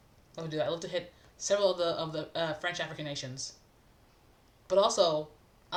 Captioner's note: french-speaking